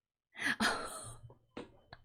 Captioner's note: laughs